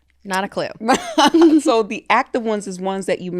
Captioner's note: laughing